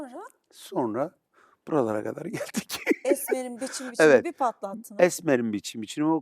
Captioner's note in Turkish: kahkaha